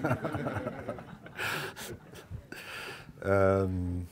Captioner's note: laughing